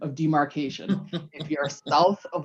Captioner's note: laughs